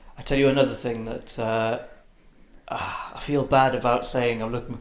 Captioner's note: sighs